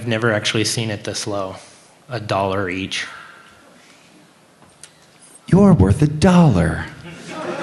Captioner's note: laughter